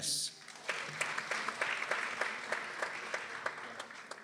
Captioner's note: people applauding